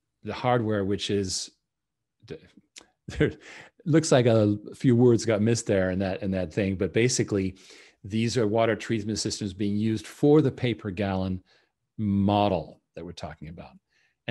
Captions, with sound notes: the hardware which is, (chuckles) looks like a few words got missed there in that thing, but basically these are water treatment systems being used for the paper gallon model that we're talking about.